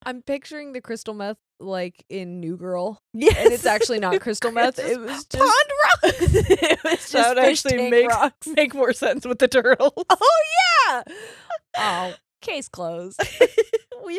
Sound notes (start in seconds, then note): 5.3 laughing; 6.8 mumbles